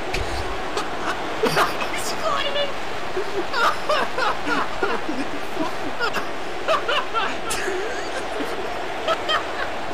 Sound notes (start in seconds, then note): 1.3 laughs; 3.2 both Laughing